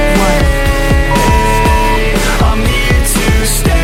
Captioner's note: beep; upbeat music